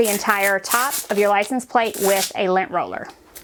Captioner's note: tape scratches